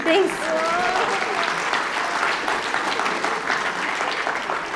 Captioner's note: applause